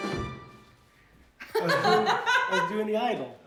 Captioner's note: all laugh